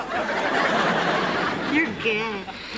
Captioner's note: laughter